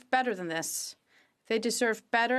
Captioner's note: speaking French